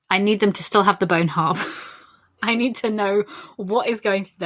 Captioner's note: laughs